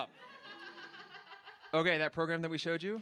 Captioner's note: laughter